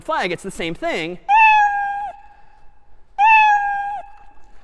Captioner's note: meowing